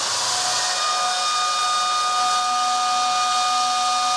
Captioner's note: whistle blares